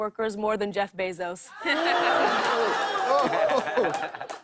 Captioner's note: audience oohs